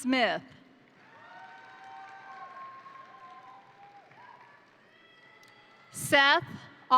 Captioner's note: crowd applauding; crowd cheering